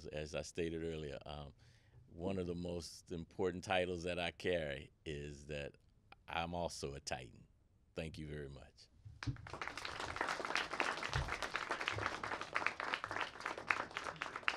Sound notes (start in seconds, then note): 9.2 audience applauding